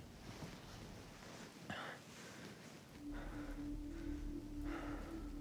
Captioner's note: Keith breathing heavily